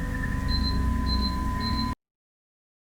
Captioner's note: beeping